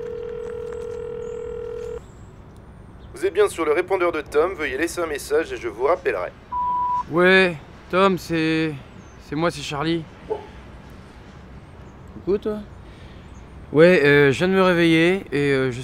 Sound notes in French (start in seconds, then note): 0.0 sonnerie de téléphone; 10.3 aboiement